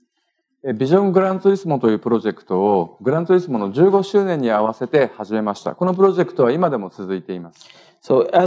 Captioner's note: speaking japanese